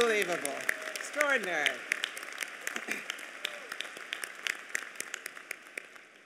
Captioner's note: applause